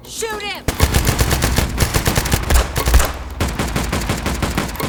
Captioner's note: gun fires; guns fire